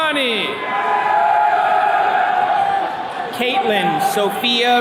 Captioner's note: attendees cheering